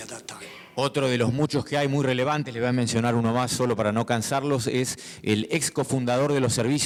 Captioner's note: speaking in foreign language